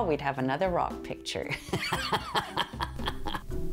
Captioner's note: laughing